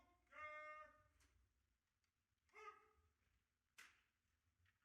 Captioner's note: officer calling out commands